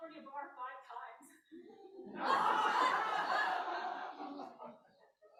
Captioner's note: laughter